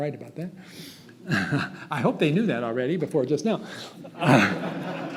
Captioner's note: chuckles; audience laughs